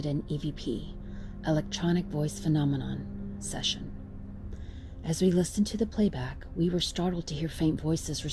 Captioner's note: electronic Voice Phenomenon